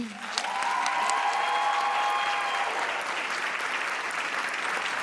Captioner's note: audience cheers